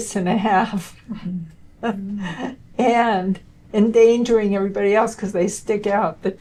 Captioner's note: laughter